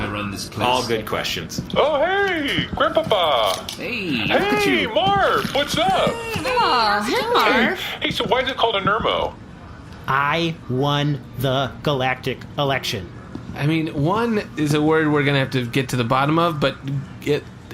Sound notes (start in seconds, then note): 2.4 happily